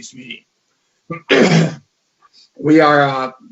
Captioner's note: clears throat